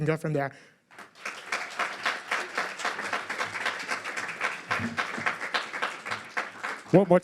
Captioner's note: applause